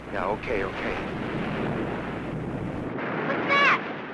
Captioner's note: waves roaring